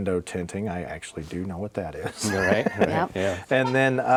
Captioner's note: laughs